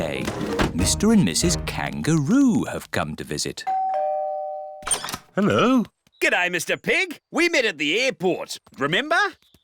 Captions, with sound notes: Mr. and Mrs. Kangaroo have come to visit. (DOORBELL RINGS) -Hello. -G'day, Mr. Pig! -We met at the airport. Remember? -Um...